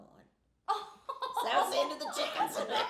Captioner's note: laughing